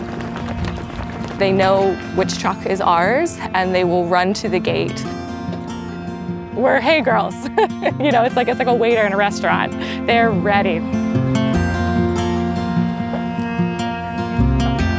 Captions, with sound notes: They know which truck is ours, and they will run to the gate. We're hay girls. [LAUGHTER] You know, it's like a waiter in a restaurant. They're ready.